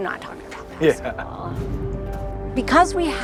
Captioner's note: chuckles